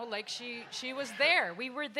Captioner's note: audience laughs